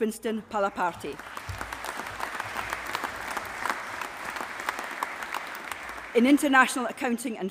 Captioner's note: applause